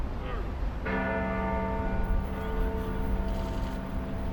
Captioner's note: bells toll